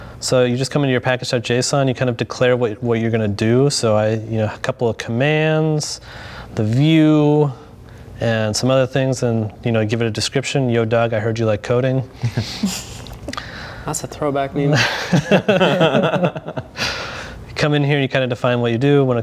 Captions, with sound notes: So you just come into your package.json, you kind of declare what you're gonna do. So a couple of commands, the view, and some other things, and give it a description. Yo dawg, I heard you like coding. That's a throwback meme. (laughing) You come in here and you kind of define what you do.